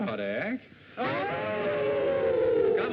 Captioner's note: howl